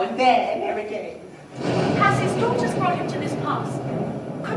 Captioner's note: thunder